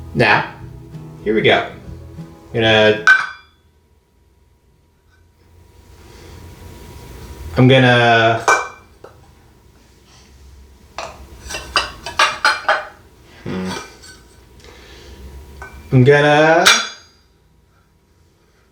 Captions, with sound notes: Now, here we go. I'm going to... (metal clangs into jar) I'm going to... (metal clangs into jar) hmmm... I'm going to...(metal clangs into jar)